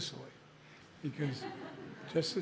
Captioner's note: laughter